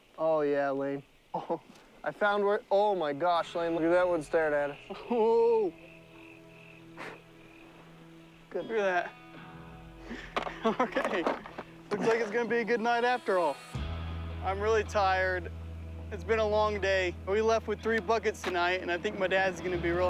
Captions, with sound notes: OH YEAH, LANE. OH, I FOUND... OH MY GOSH, LANE. LOOK AT THAT ONE STARING AT US. WHOA! [BLOWS] LOOK AT THAT. OKAY, IT LOOKS LIKE IT'S GONNA BE A GOOD NIGHT AFTER ALL! I'M REALLY TIRED. IT'S BEEN A LONG DAY, BUT WE LEFT WITH 3 BUCKETS TONIGHT,